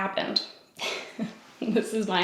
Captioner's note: giggles